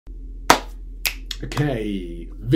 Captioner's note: claps and snaps